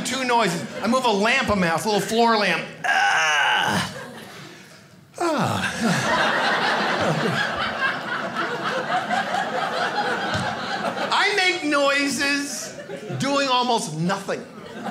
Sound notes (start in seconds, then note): 2.3 groans; 5.1 sighs; 5.6 audience laughing